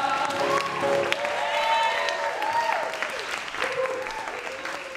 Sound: cheering and applauding

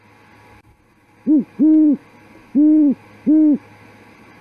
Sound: owl hooting

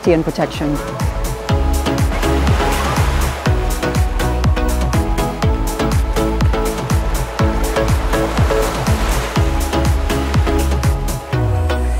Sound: sound of waves

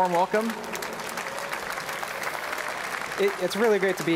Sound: audience applauding

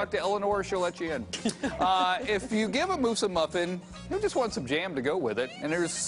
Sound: laughter

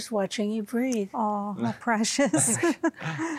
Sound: giggling

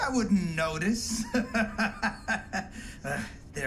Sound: laughs

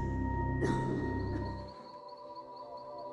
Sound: insects chirping

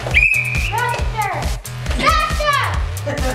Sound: blowing a whistle

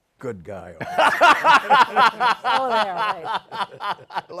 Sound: laughter

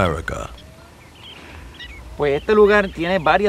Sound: birds chirping

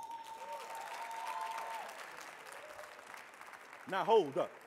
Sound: audience cheering

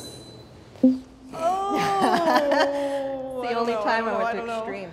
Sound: laughs

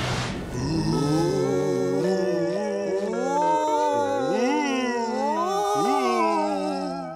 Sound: moaning

